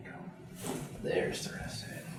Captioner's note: back cracks